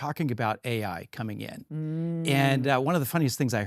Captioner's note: hums